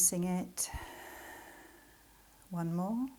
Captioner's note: exhaling